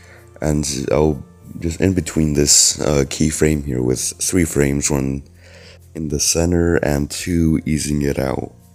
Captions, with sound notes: ...and ill just inbetween this, uh, keyframe here with 3 frames, oneE *breath* In the center and two easing it out.